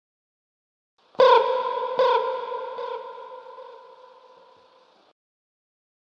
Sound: sound of bird

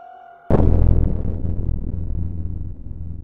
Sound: boom sound effect

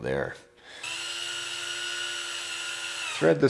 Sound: drill whirring

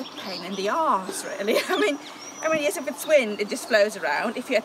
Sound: laughs

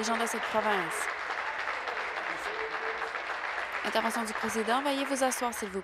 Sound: applause

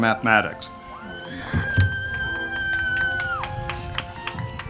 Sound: audience applauding

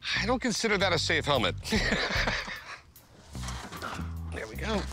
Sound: laughs

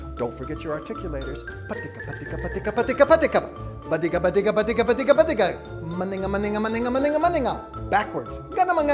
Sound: mouth sounds; mouth sounds

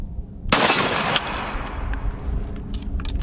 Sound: gun shot

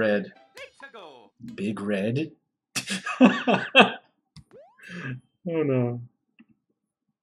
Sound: laughs

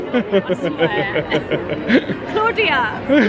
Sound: laughs

